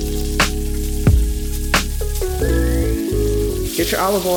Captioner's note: sizzling